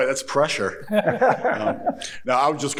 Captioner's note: chuckling